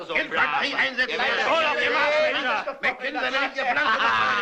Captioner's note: chattering